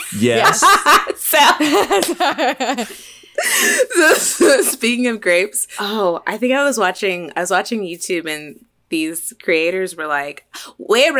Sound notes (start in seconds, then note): 0.1 laughs